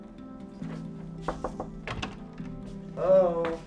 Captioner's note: door knock